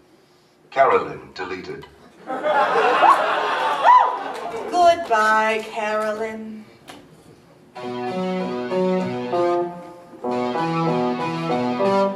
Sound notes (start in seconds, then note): 2.1 audience laughs; 7.7 electronic music starts